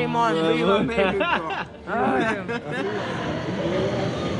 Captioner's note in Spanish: La risa